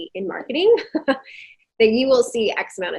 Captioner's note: chuckling